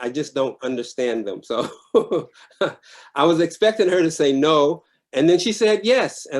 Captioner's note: laughs